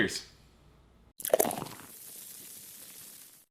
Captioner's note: beer pouring sound